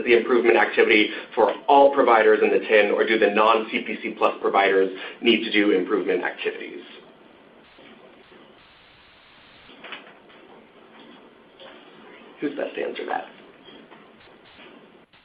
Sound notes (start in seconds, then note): 9.2 silence